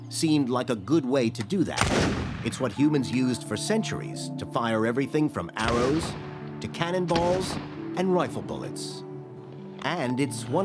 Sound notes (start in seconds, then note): 1.7 gunshot